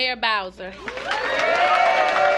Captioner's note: applause